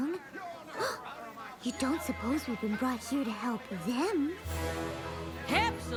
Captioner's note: gasps